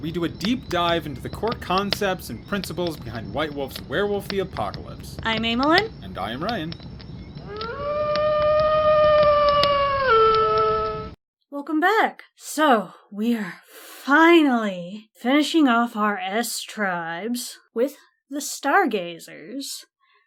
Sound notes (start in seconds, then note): 7.4 wolf howls